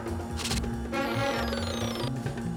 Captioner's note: beeping